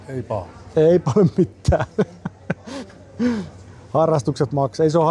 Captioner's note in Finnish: naurua